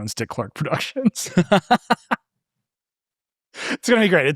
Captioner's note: participants laughing